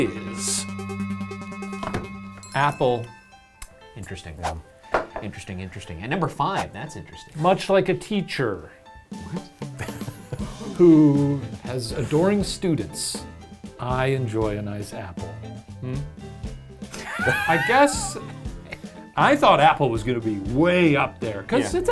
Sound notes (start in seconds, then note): 16.9 laughing